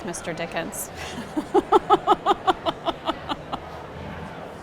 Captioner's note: laughs